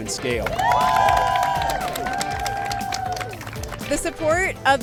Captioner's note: applause